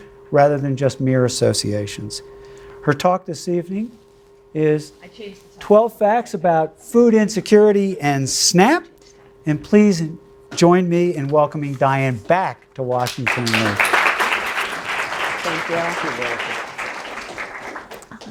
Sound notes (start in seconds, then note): 12.9 audience claps